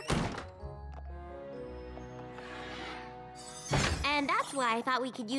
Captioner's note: door slams